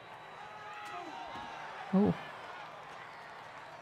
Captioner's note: crowd jeering